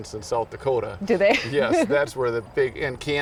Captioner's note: chuckles